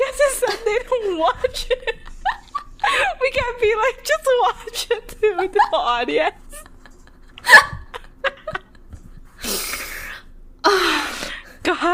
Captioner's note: laughing; both laughing